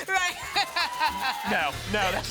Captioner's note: laughs